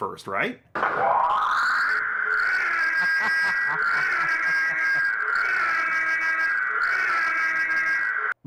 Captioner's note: Ecto-1 siren; laughing